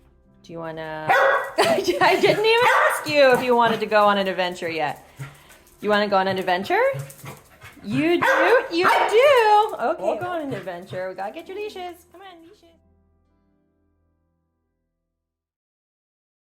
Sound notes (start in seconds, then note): 1.0 Maya barks; 7.6 Maya barks